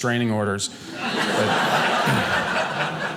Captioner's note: audience laughing